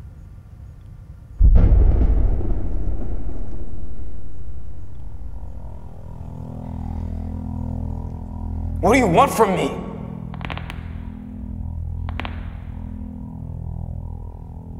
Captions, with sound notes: (dramatic music) What do you want from me? (neck cracking)